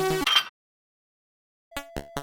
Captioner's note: clank